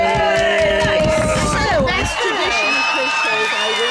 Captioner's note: cheering